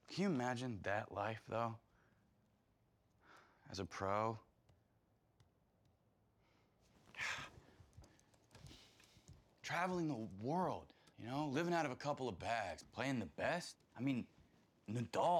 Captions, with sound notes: Can you imagine that life, though? As a pro. (Marshall sighing) Traveling the world, you know? Living out of a couple of bags. Playing the best. I mean, Nadal!